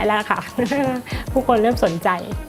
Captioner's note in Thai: หัวเราะ